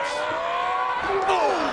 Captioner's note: Big Daddy shouting